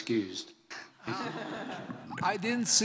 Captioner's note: laughs